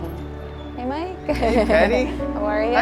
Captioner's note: chuckling